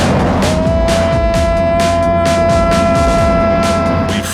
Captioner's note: jeremy screams